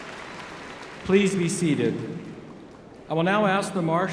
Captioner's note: applause